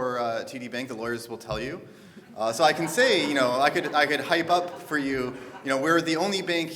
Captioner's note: audience laughter